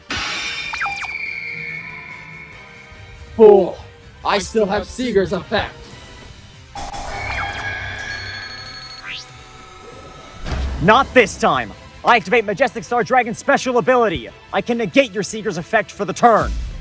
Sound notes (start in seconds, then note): 0.2 majestic star dragon cry; 7.1 sieger screech